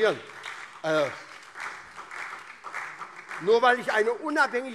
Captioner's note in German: Beifall SPD und DIE LINKE